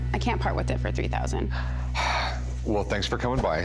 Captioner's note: sighs